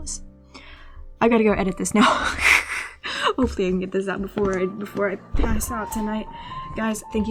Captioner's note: laughs